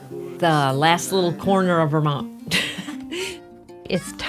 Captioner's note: laughs